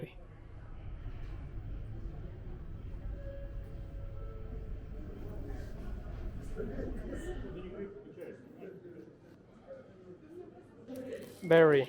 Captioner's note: airport sound